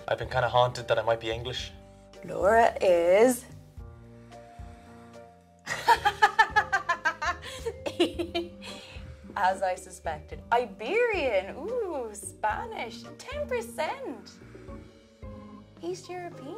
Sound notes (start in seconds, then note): 5.7 laughs